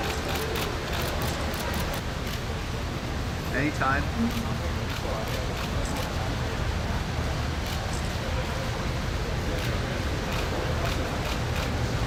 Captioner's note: camera shutters click